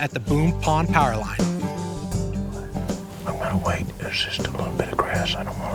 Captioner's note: whispering